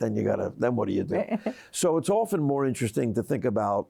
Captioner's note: chuckles